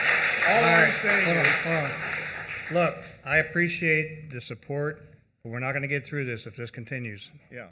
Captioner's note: applause